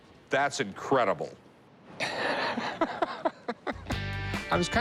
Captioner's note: laughs